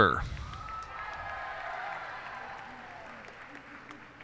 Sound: cheers and applause

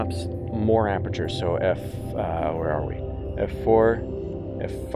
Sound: humming

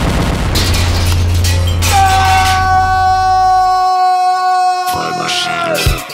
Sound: screams

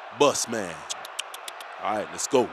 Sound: kisses teeth in disappointment

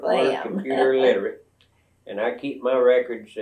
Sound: laughs

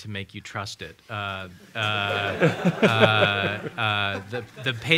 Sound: laughter

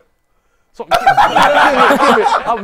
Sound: people laughing

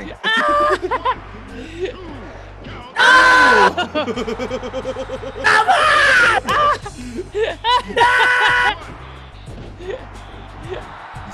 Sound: laugh

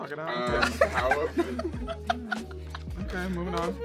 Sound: laughing

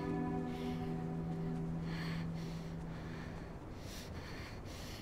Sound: breathing heavily and shivering

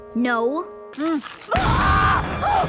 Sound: screaming

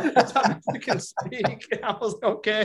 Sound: laughing

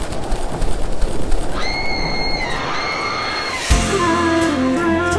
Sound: bird Flying; scream

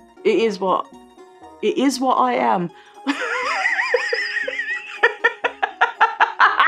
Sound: laughs

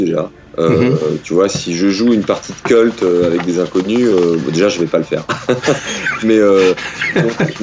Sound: laughs

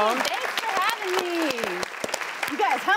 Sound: audience clapping

